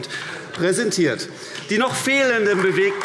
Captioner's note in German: Beifall AfD